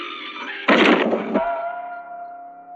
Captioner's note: lid thuds